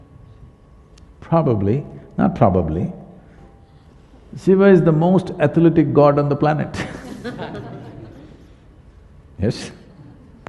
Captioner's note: laughter